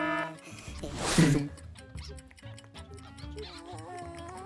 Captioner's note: alarm sounding; clock ticking